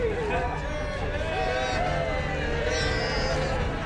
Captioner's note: all cheering